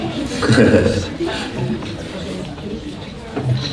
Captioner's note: laughing